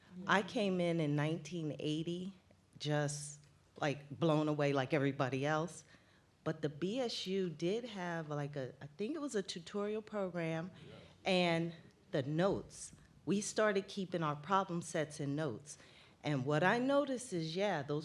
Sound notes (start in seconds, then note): none